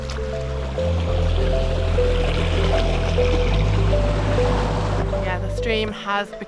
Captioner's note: water running